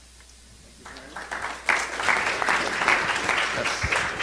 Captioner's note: applause